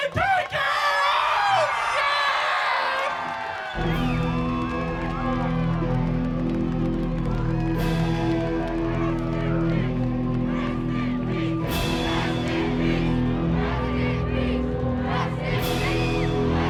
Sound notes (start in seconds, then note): 3.3 crowd chattering; 3.3 dramatic music